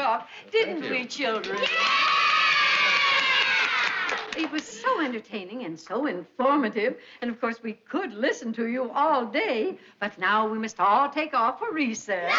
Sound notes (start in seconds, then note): 2.6 clapping